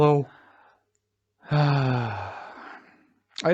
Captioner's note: sighs